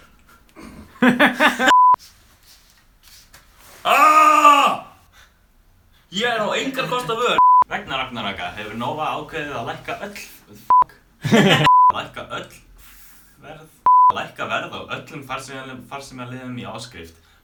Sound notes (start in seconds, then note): 0.1 laughing; 3.8 screams; 6.9 laughing; 11.2 laughing